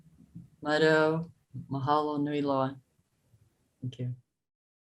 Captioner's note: speaking foreign language